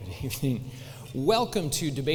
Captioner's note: laughing